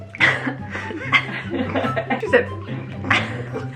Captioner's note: light music; laughs